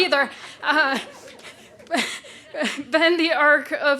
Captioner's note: laughing